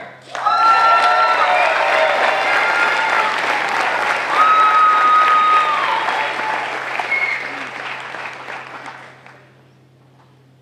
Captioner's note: applause